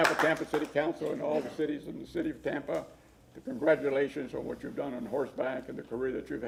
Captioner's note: applause